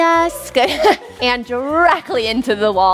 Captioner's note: laughs